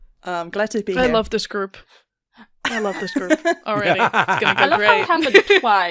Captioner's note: laughter